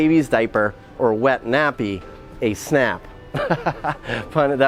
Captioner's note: chuckling